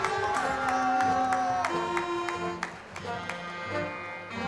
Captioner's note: crowd cheering